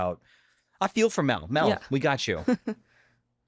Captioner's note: chuckles